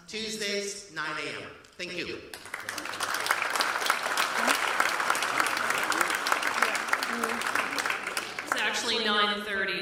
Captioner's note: applause